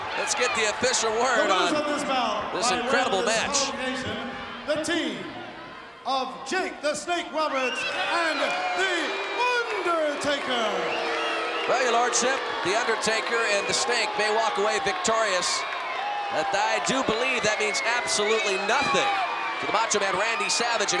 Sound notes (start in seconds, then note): 10.8 applause